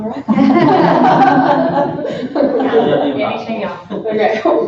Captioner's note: laughter